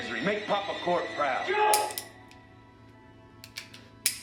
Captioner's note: gun clicks